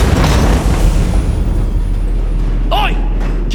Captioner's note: gates Closing